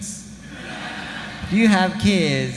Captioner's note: audience laughing